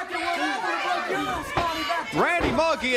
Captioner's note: crowd cheering